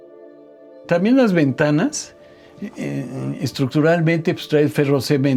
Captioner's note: ethereal music; continues in Spanish